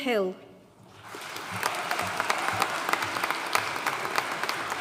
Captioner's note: audience applauding